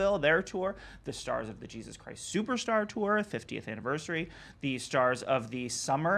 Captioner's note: none